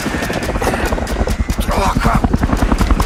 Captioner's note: in English